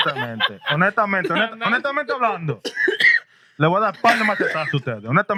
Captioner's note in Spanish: Hablando en idioma extranjero